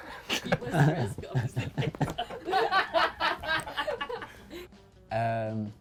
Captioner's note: interviewer mumbles and laughs; laughs